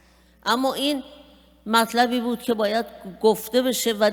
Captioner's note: speaking persian